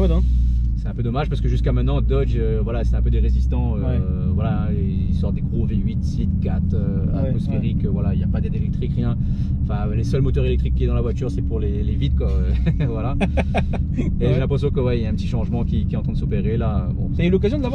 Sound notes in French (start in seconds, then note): 12.3 rires